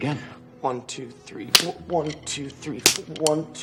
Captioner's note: slap